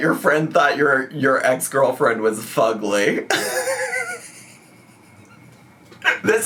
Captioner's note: laughs